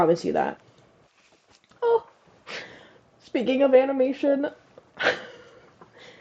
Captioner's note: whines; laugh